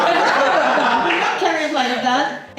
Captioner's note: laughs